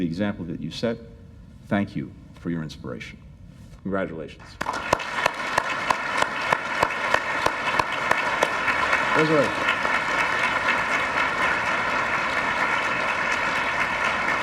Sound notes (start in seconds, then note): 6.0 applause; 10.2 applause